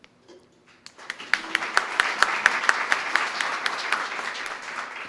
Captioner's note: applause